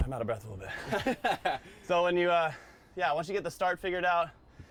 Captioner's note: laugh